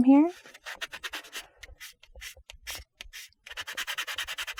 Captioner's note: block scratching